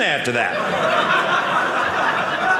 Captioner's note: audience laughing